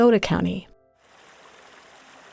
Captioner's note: rippling water